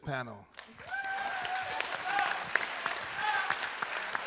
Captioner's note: applause and cheering